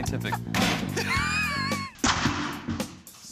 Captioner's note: laughing